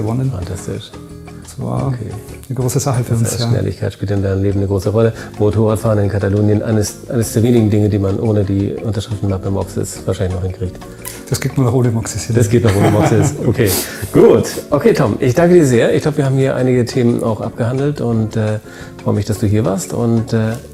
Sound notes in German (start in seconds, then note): 12.6 lacht